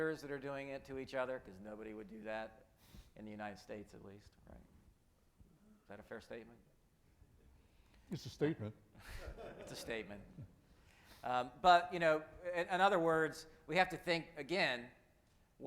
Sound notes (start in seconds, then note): 9.1 audience laughing